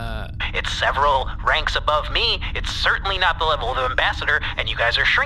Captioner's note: angrily, on a rant